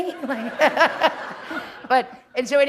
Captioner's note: laughter